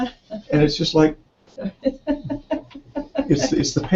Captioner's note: laugh